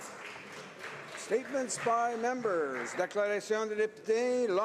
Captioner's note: some applause